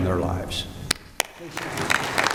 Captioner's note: applause